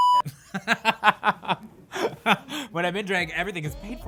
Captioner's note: beep; laughing